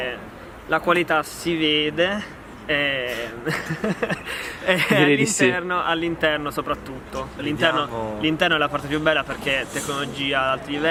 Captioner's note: laughs